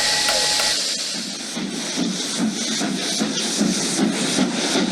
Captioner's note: a steam engine whistle is heard; a steam engine is heard approaching